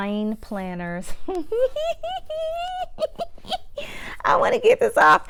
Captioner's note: giggles